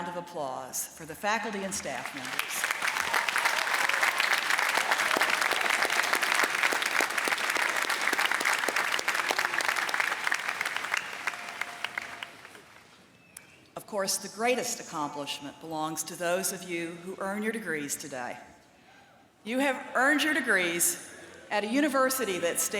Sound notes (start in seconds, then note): 3.1 applause